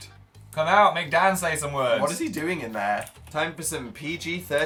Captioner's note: none